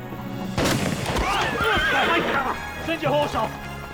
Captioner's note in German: Schrotflintenfeuer; Pferd wiehert